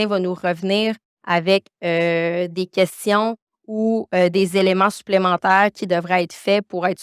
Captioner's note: continues speaking French